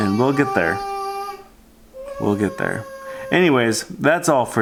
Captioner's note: babbling